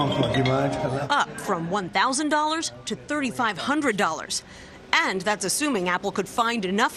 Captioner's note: phone ringing